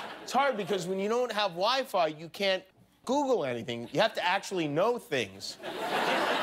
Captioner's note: laughter